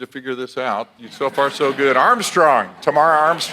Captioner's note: audience laughs; audience applauds